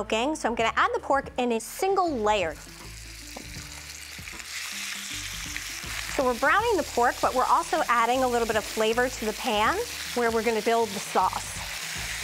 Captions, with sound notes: so I'm gonna add the pork in a single layer. (sizzling) So we're browning the pork, but we're also adding a little bit of flavor to the pan where we're going to build the sauce.